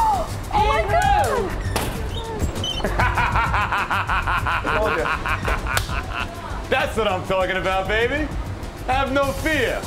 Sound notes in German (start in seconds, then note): 2.6 lacht